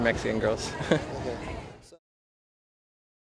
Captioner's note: chuckles